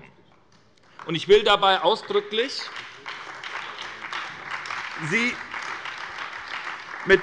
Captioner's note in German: Beifall bei der SPD und bei Abgeordneten der CDU